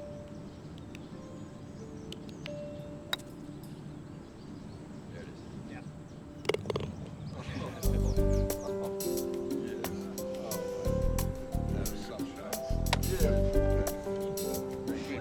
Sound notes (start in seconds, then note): 3.4 clinks